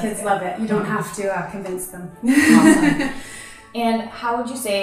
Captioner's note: laughs